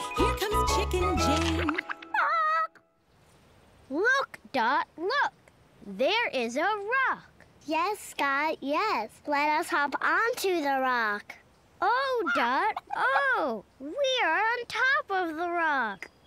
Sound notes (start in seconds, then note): 0.0 singing; 1.2 squawks